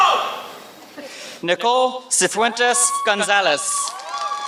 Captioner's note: applause